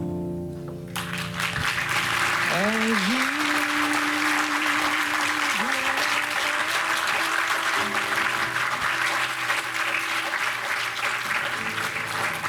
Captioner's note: applause